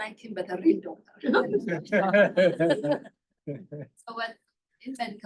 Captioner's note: laughter